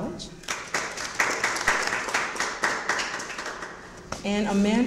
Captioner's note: audience applauds